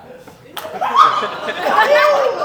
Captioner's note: laughter